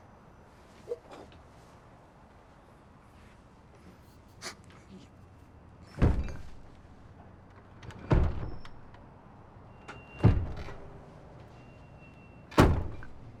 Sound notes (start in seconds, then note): 5.9 loud banging in room next door